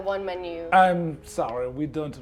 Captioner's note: French accent